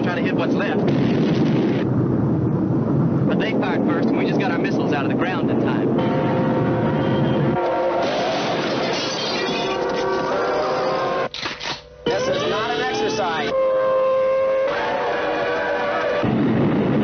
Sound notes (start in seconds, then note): 8.4 glass shattering; 10.3 horns blaring; 11.3 gun snapping; 13.7 siren blaring; 16.2 rocket rumbling